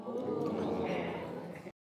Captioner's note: audience exclaiming